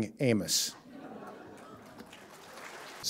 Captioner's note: applause